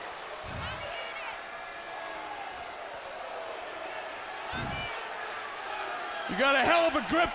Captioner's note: crowd chatter